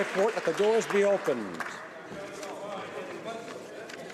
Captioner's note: applause